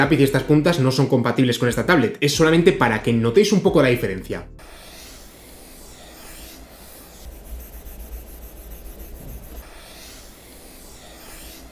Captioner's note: sound of pencil writing